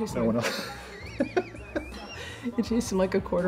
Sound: laughing

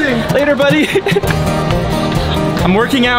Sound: laughing

